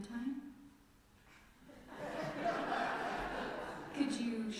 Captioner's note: laughter from congregation